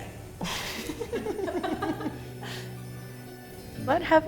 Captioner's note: laughter